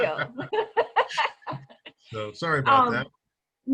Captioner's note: laughing